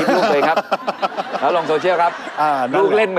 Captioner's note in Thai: หัวเราะ